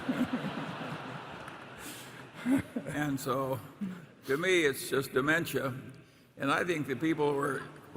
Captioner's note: laughter